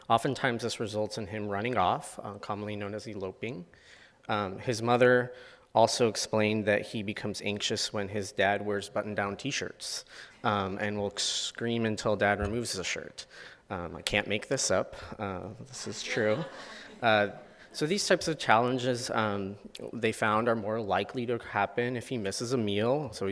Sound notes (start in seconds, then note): 15.7 audience laughs